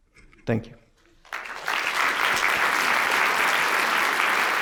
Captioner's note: applause